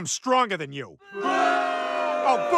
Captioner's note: booing